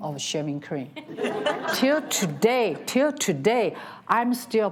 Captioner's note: audience laughs